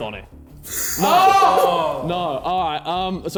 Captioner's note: men shouting